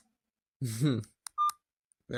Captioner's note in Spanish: risita interna